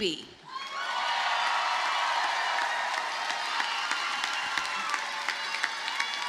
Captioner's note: audience cheers and applauds